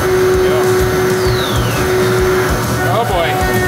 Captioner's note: beveling machine whirring; descending drop whistle